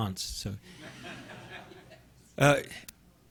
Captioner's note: audience laughing